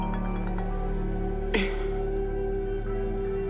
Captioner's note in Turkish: Boğazını temizledi